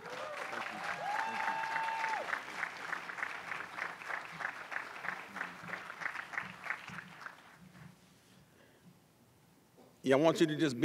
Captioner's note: applause and Cheers